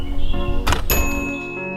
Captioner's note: bing